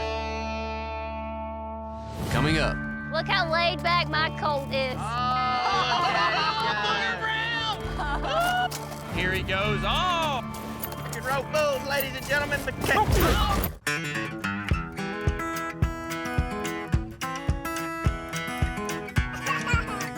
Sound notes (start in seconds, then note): 5.0 everyone exclaims